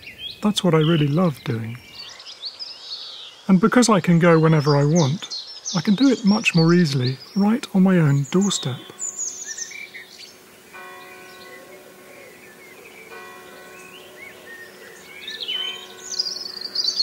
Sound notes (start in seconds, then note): 10.4 church bell